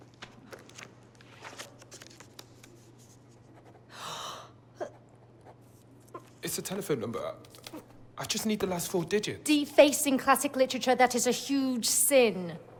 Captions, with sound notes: (pen scrapes) (gasping) - It's a telephone number. I just need the last four digits. - Defacing classic literature, that is a huge sin.